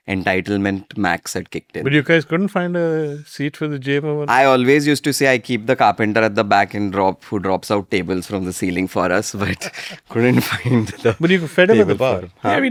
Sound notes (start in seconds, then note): 9.4 laughs